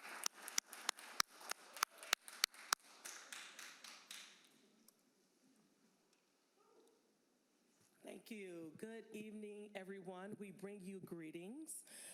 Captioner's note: applause